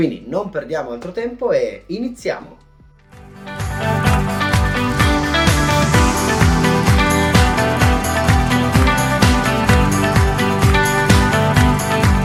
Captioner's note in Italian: Applauso